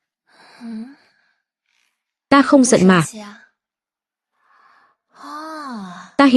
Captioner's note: thở dài